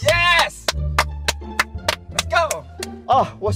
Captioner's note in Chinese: 尴尬拍手